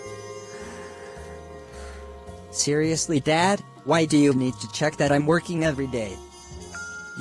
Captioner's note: breathes